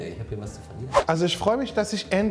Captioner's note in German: woosh